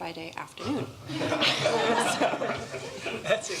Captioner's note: laughter